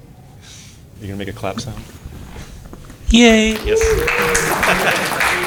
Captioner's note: applause